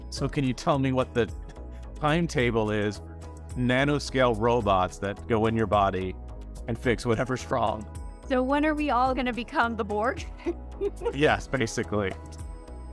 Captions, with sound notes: So can you tell me what the timetable is, nanoscale robots that go in your body and fix whatever's wrong? - So when are we all gonna become the borg? (laughing) - Yes, basically.